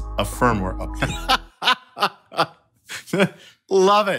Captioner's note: laughing